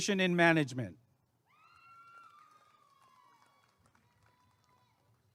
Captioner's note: applause and cheering